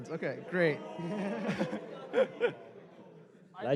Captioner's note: exclamations